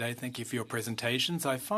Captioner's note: speaking French